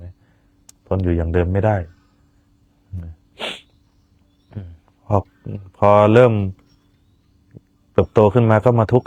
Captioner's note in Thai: เสียงสูดหายใจ